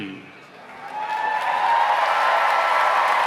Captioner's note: cheers and applause